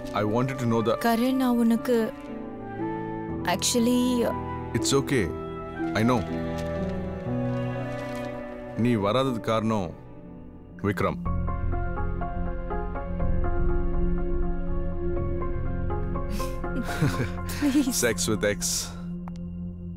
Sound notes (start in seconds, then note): 16.7 giggling